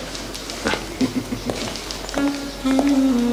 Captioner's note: Chuckles